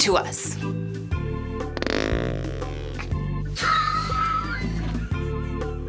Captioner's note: sound of flatulence